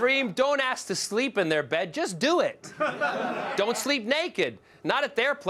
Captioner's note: laughter